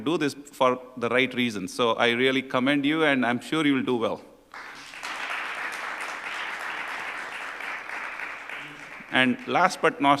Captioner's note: applause